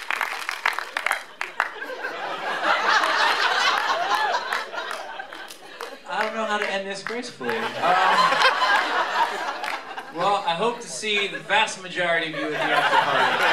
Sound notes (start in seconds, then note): 0.0 applause; 1.2 laughter